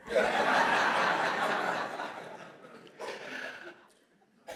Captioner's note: audience laughs